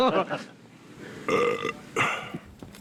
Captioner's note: burps